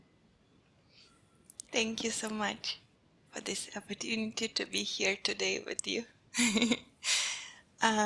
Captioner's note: laughing